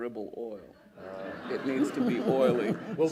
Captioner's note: laughter